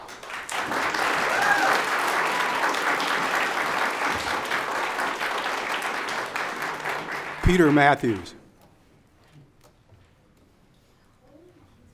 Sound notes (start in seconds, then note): 0.3 audience applauds; 1.6 audience cheers